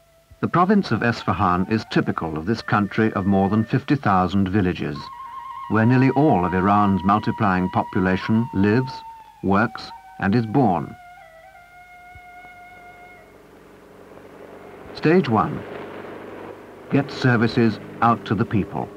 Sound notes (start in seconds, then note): 13.1 vehicle approaching